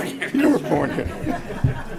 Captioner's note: laughter